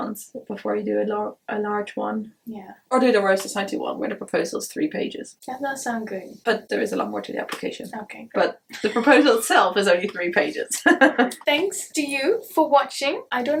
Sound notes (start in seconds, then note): 8.4 laughs; 10.7 chuckles